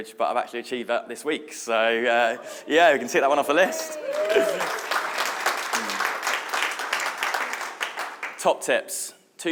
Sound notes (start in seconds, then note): 3.3 audience cheering; 3.5 audience applauding